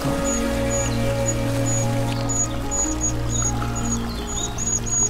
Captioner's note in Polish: słychać szum wody i śpiew plszucza